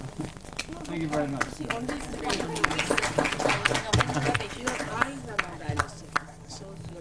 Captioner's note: all clap